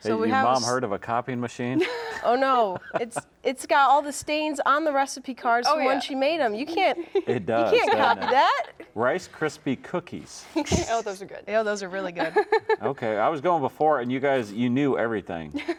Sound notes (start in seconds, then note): 10.6 laughs; 12.1 laughs